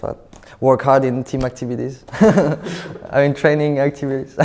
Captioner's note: laughs